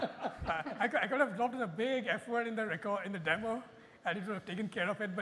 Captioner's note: laughter